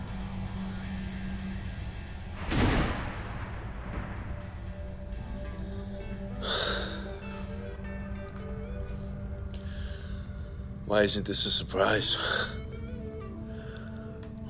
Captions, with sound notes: - [sighs] WHY ISN'T THIS A SURPRISE?